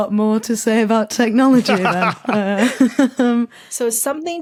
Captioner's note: laugh